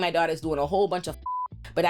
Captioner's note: beep